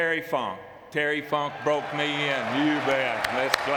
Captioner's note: audience clapping